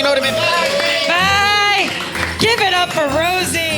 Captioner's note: audience applauding